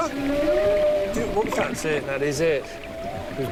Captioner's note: whale singing